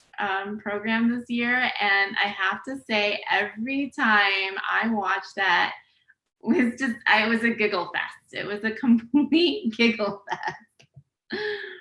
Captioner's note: laughs